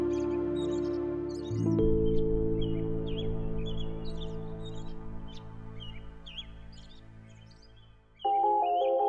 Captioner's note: song birds singing